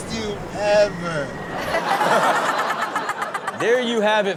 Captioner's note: all laugh